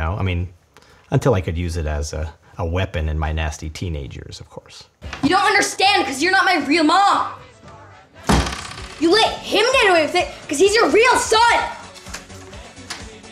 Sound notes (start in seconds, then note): 8.2 door slams